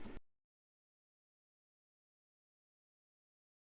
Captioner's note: silence